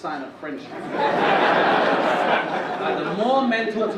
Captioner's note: audience laugh